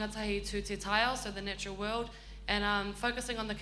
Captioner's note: speaks in foreign language